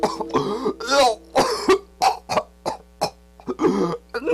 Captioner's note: gagging Sounds